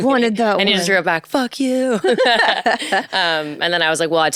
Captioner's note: both laugh